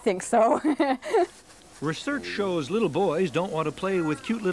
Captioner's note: laughing